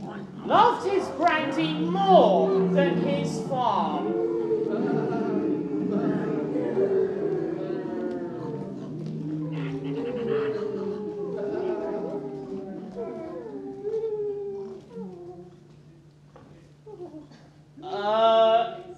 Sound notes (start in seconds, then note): 5.6 animal noises